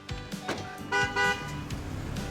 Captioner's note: beeps horn twice